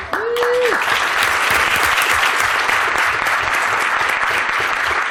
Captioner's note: applause